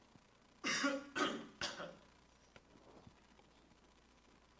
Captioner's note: student coughing